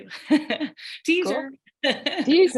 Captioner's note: laughing